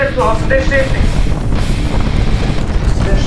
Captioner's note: earthquake